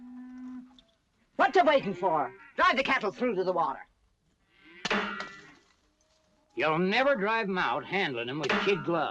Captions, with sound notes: What you're waiting for? Drive the cattle through to the water. [ CLACKS ] You'll never drive them out handling them with skin gloves.